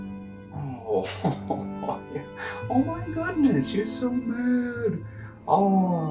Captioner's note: Ludlow laughs mockingly